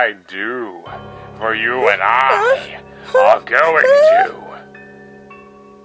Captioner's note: Erina sounding increasingly concerned